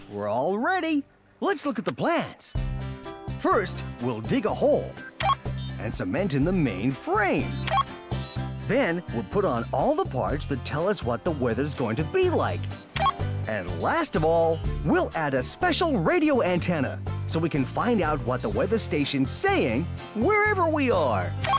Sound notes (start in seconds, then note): 5.0 computer Beeps; 7.7 beep; 13.0 beep